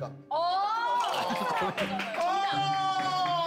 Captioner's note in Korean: 뒤늦게 자각 한 템포 느린 박수